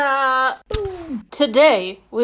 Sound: gun firing noises; cannon firing

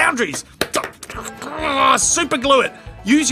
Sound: frustrated grumbling

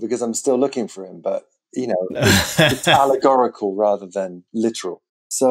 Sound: laughter

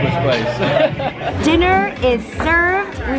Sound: laughing

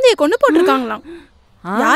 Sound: exclaims

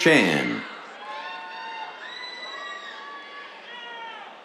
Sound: cheers

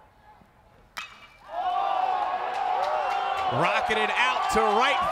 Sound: crowd cheering

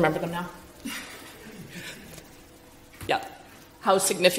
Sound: chuckles

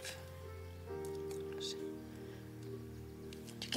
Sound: whispering

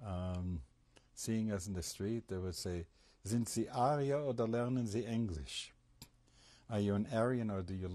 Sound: speaking german

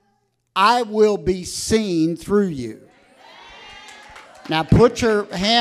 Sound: congregation cheering

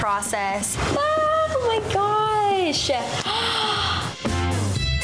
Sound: exhale; upbeat music

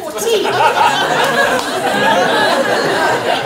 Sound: laughter

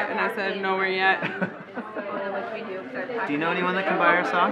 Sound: laughs

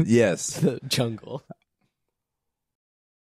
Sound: laughter

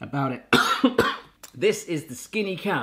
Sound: coughs

